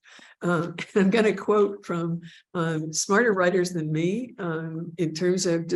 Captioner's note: giggling